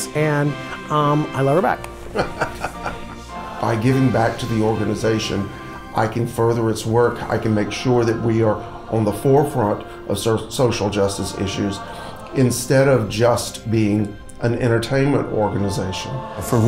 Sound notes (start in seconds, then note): 2.1 laughs